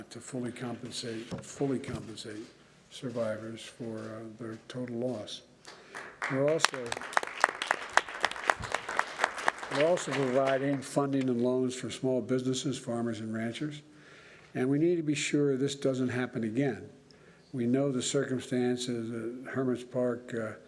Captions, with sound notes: to fully compensate -- fully compensate survivors for their total loss. We're also -- (applause) -- we're also providing funding and loans for small businesses, farmers, and ranchers. And we need to be sure this doesn't happen again. We know the circumstances of Hermit's Park